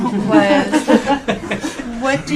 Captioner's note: laughing